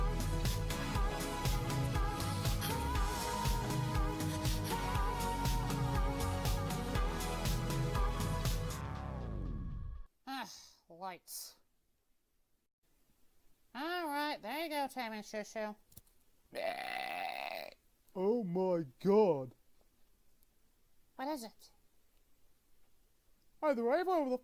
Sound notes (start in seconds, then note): 16.5 Shushu belches and Tabby sniffs